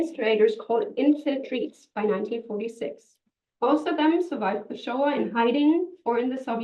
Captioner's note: hebrew